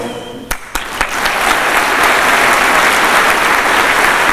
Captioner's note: applause